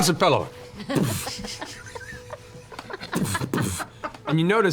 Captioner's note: repeated thuds